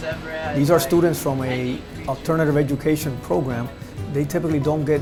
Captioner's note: officer voice over